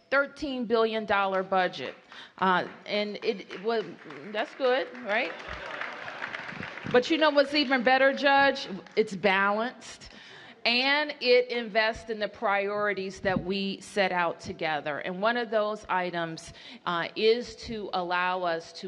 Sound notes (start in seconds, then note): 3.1 applause